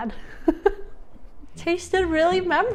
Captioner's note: laughing